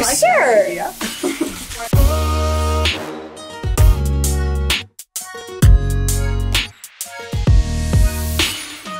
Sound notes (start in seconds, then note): 1.1 laughs; 2.3 upbeat music